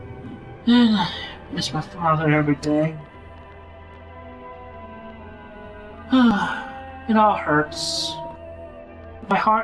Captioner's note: sigh